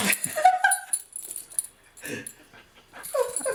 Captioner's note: laughter